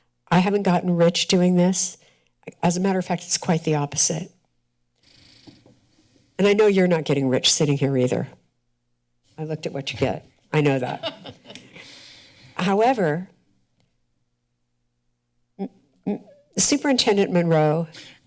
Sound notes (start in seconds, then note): 10.8 laughter